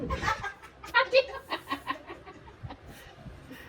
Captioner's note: laugh